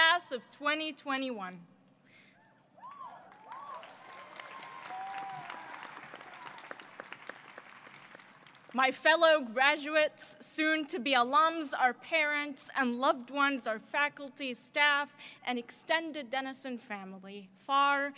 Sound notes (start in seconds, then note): 2.8 applause